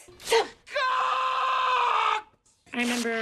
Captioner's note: screams